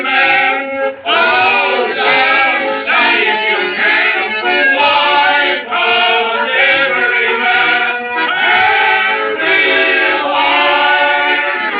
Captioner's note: accordion; horns Honking; chattering